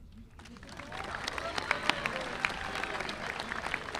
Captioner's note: audience applauding